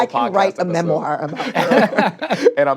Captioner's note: all laugh